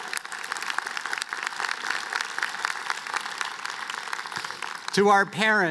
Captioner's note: applause